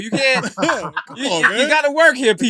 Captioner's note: laughter